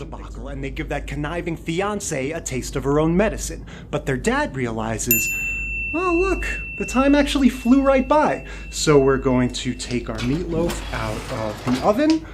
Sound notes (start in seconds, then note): 5.1 bell